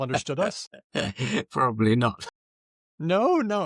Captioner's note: laughs